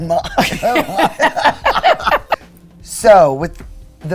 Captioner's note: both laugh